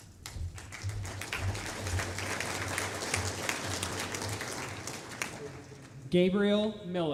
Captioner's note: applause